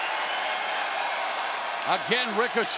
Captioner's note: crowd cheers